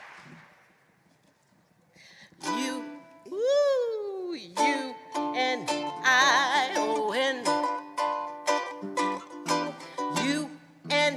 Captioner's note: applause